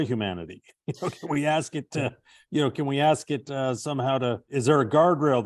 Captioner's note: chuckling